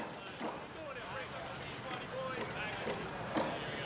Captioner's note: sound of men talking and working